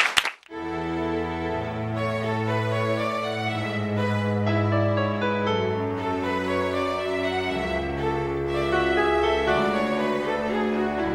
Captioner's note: applause